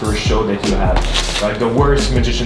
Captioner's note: cards shuffling